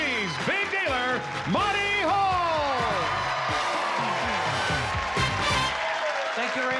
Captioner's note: applause and cheering